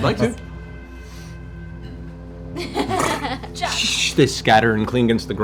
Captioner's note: laughter